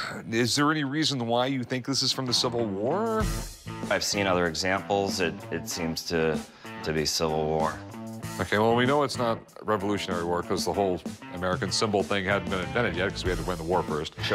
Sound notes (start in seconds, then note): none